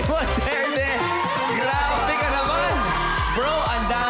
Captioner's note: cheering, applauding